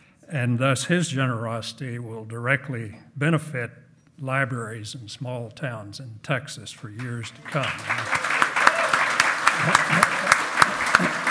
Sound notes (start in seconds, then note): 7.3 loud clapping